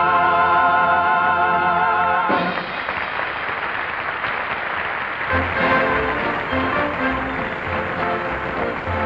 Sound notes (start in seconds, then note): 2.3 audience applauding; 5.2 upbeat, orchestral music